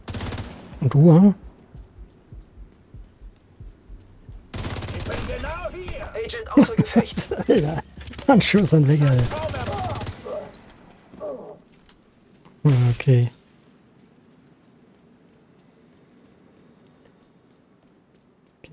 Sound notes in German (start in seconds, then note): 10.2 gelächter